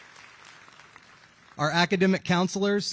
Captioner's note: applause